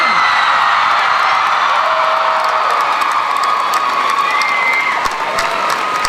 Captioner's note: crowd cheering